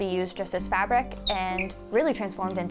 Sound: wheel squeaks

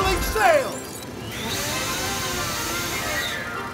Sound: gears grinding

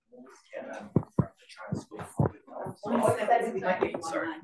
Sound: audience murmuring

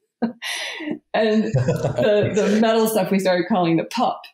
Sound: laughing; laughs

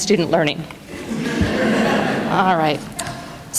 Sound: laughter

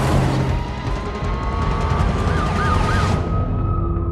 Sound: siren wailing

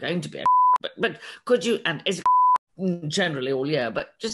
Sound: beep; beep

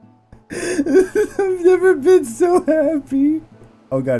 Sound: laughing

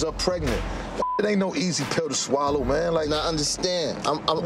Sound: beep

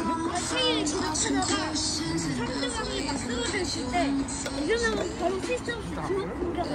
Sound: chattering and chattering

